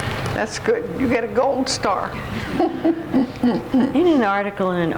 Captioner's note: laughs